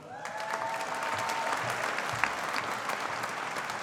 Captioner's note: audience applauding